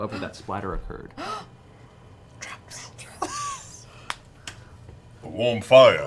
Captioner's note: whispers